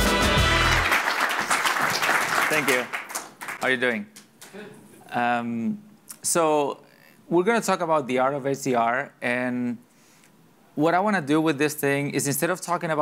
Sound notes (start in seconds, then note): 0.0 audience applauding